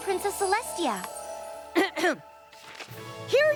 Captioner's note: clears throat